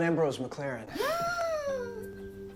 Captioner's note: 𝘴𝘩𝘢𝘳𝘱 𝘸𝘩𝘦𝘦𝘻𝘦